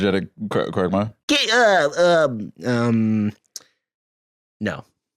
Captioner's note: Quagmire-ish stammering